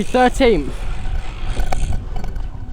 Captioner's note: brake squeeling